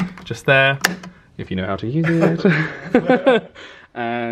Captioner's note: they laugh